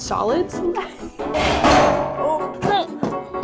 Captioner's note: clattering